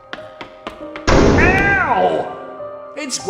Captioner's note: loud metallic banging noise